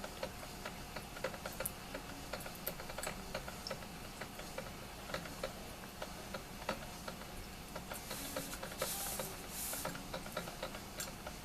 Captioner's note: sound of coffee brewing